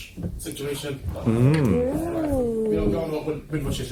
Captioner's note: murmuring